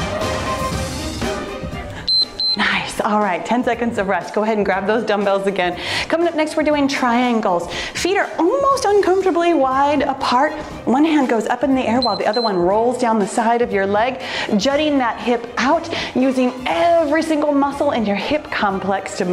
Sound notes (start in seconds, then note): 2.0 timer beeps; 12.0 timer beeps